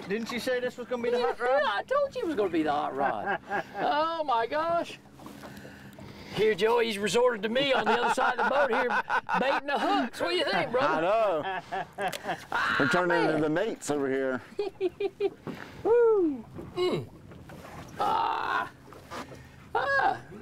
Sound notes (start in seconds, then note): 7.6 laughing; 11.5 laughing; 14.3 laughing; 18.0 laughing